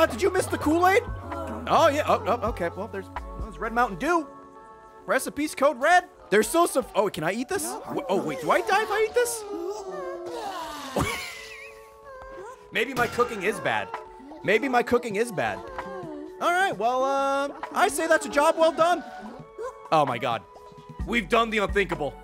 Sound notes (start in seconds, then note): 11.8 laughs